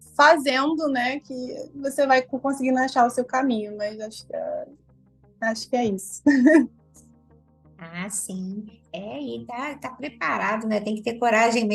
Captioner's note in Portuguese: risos